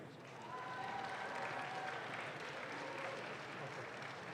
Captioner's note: audience claps